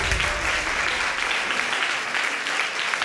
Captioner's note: audience applauding